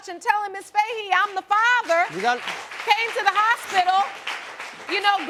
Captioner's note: audience applauding